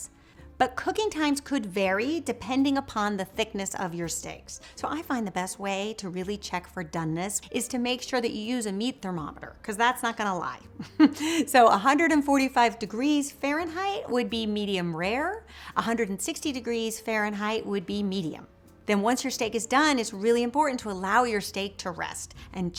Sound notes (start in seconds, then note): 10.7 chuckles